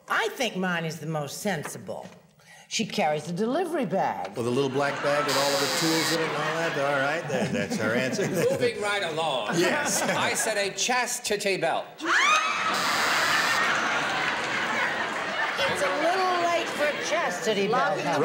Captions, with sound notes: -I think mine is the most sensible. She carries a delivery bag. -The little black bag with all the tools in it and all that. All right, there. That's her answer. -Moving right along. -Yes. -I said a chastity belt. [laughter] -It's a little late for a chastity belt.